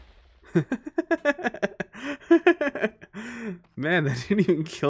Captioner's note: laughs